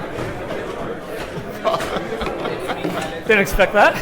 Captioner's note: laughs